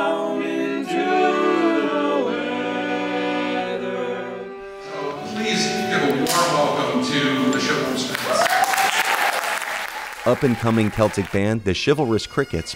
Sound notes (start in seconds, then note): 8.0 cheering and applause